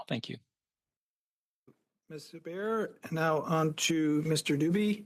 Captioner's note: speaking French